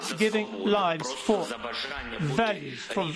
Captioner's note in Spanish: habla en inglés